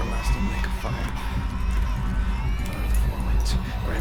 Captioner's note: baby crying